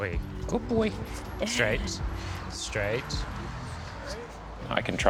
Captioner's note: chuckles